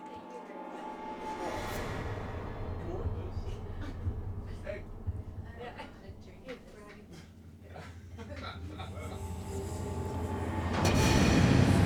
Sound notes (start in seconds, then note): 0.0 dramatic music; 2.0 heart beating; 8.0 dramatic music